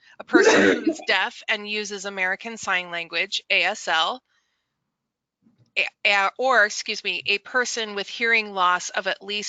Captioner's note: coughs